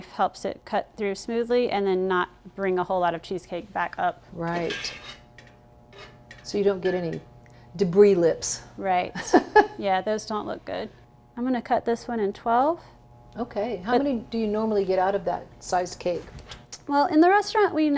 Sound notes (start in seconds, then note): 9.3 laughing